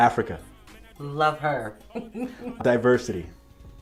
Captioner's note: laughs